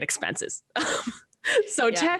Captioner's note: laughs